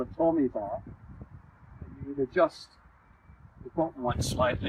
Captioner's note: extreme wind noise